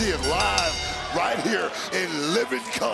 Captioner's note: bell rings